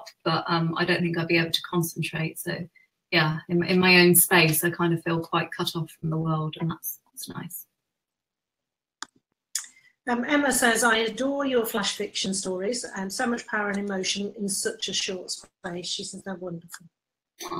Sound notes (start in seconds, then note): none